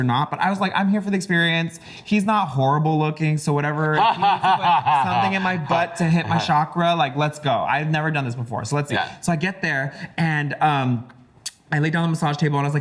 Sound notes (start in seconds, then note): 3.8 laughs